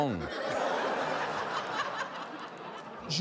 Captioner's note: laughter